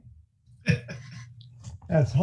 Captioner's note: laughing